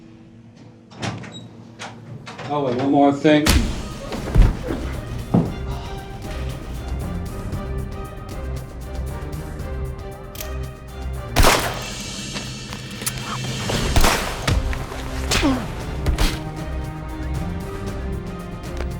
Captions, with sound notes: Oh, and one more thing- (fist thumps) (body thuds) (dramatic music) (gun cocks) (gun fires) (gun fires) (blows thud)